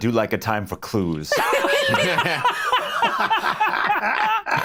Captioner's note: all laughing